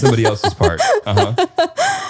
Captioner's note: laughing